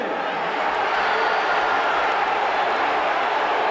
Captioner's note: audience roaring